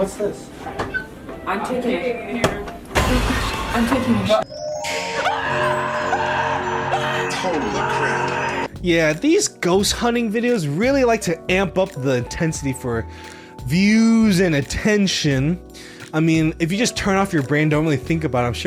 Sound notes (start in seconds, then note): 5.0 screaming; 5.2 gentle music